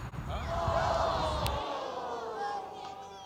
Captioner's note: audience shocked